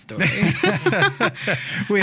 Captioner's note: laughing